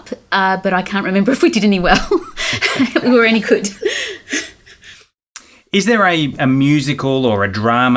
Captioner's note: laughing